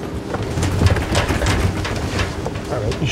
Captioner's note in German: Flugzeug rattert